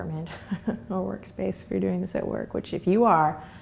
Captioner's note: laughs